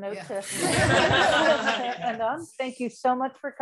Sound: laughter

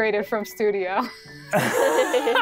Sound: players laughing

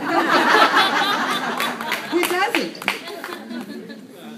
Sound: laughter

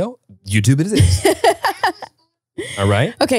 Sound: laughs

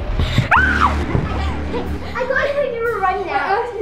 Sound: screams

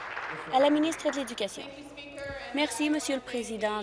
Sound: applause

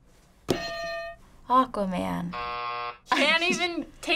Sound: hitting bell; buzzer

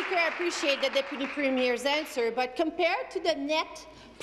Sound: applause

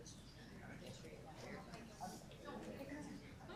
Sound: group chatter

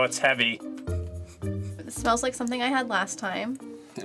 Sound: sniffs

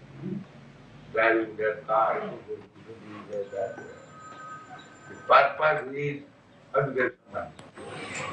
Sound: makes noise of cars

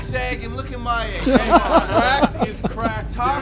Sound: laughter

